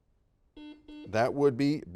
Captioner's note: buzzer dings